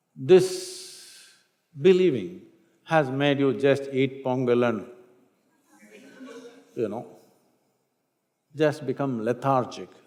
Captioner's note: few laugh